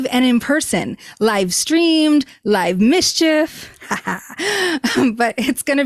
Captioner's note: laughs